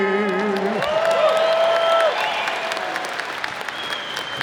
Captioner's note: audience applauds